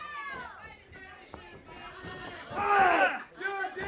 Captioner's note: crowd chatter